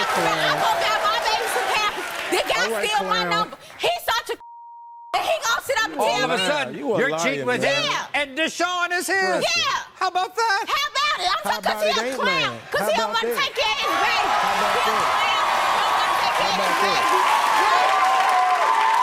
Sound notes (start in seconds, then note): 14.5 audience cheering